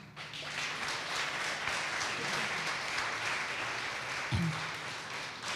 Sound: audience applause

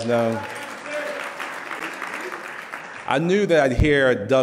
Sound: loud clapping; muffled shouting

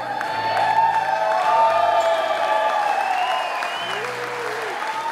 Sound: wedding attendees cheering

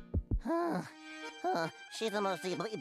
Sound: gasping

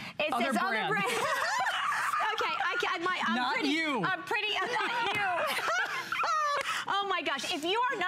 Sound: laughter; laughter

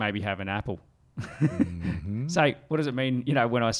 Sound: chuckling

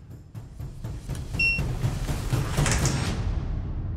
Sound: machine beeps

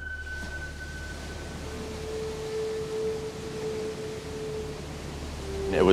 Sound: tranquil flute music; waves crashing

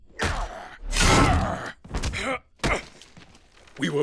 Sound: grunting

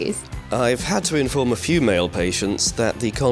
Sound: voiceover

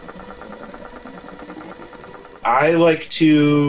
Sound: fast, mechanical clicking sounds

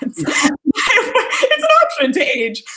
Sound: laughing

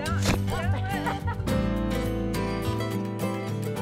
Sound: gentle music; laughing; gentle music

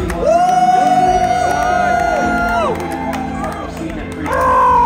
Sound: crowd cheering

